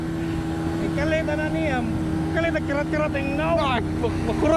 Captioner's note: local Dialect